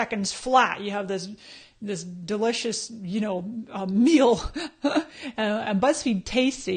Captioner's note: laughs